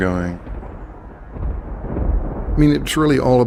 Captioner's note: thundering